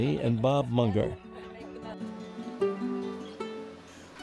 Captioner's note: chatter